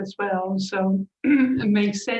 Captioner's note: clears her throat